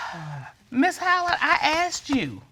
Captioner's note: sighs